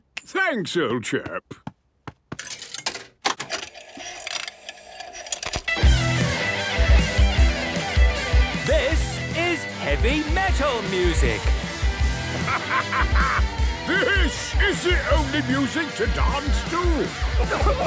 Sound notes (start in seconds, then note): 3.3 clicks, whirring; 5.1 heavy metal music plays; 8.8 shouting